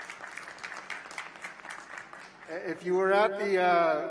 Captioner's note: applause